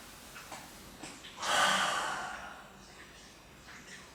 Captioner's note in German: Seufzer